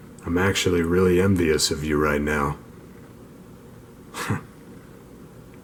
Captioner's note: chuckle